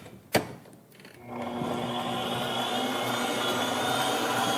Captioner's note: whisking